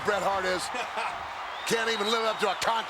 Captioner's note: laughs